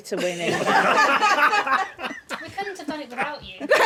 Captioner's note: laughing